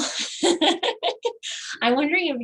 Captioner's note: laughs